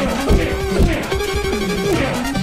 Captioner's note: bomp; slap